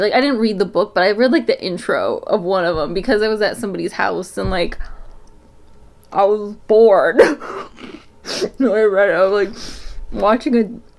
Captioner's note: laughs